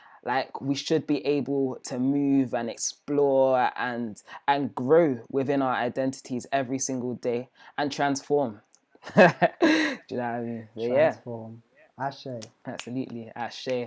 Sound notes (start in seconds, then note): 9.0 both laugh